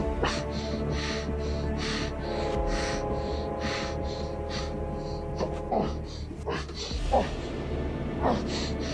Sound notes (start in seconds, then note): 0.3 gasping continues; 2.4 train approaching